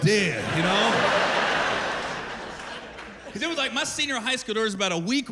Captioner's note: laughter